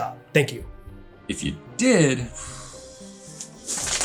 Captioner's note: sigh